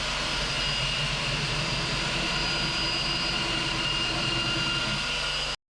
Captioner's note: drill whirring